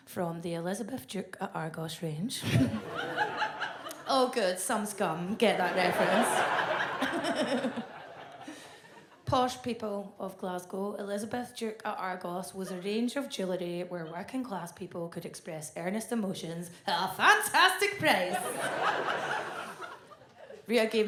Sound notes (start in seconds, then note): 2.5 audience laughs; 8.4 laughs; 18.1 audience laughs